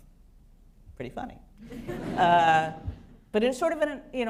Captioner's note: laughter